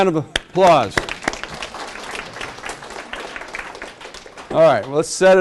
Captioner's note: class claps